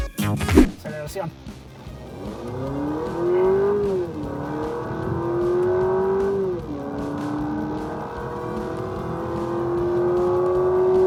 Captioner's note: engine reving